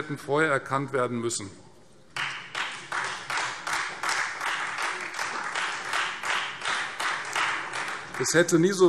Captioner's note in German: Beifall Freie Demokraten